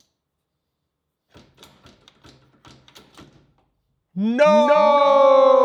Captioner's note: tool rattling